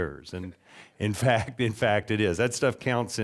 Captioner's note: chuckling